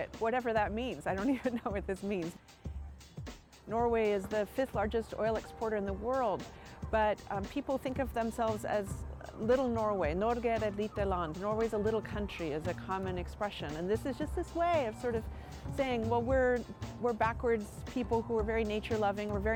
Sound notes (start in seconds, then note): 10.5 speaking Norwegian